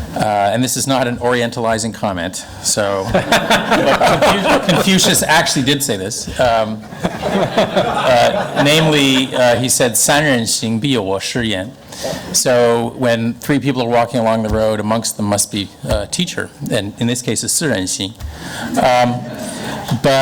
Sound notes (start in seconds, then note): 3.0 laughing; 6.8 laughing; 9.5 speaks in foreign language; 18.5 foreign language